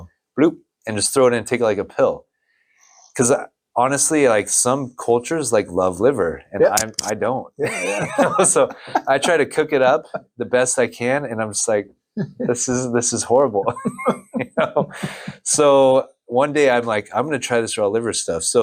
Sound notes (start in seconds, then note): 7.6 laughs